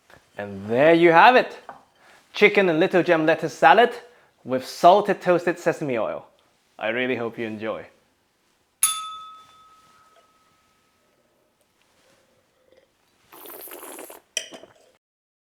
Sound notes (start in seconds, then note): 8.8 bell rings; 11.8 slurps